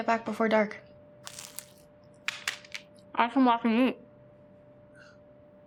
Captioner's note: loud crunch